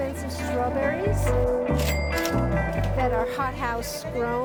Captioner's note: cash register rings